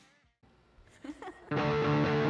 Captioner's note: laughter